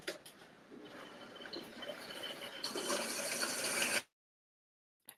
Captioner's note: blender whirring